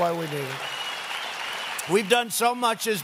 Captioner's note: applause